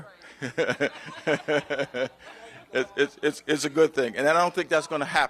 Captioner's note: laughter